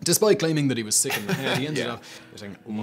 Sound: chuckles

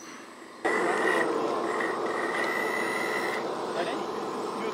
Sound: engine roars

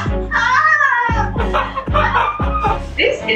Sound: laughs

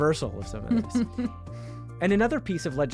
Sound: chuckling

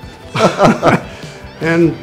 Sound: laughing

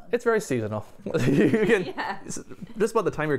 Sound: laughter

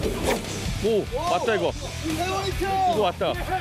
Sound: thrilling sound of snatching

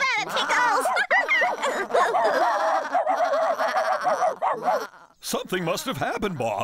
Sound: barking

